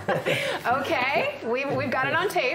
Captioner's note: both laugh